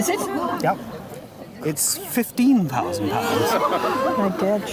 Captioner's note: crowd gasps